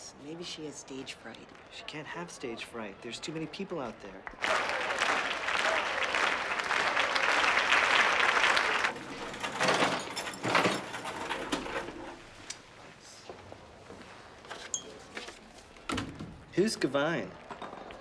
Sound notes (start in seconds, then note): 4.2 clapping rhythmically